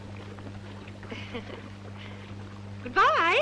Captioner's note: woman chuckling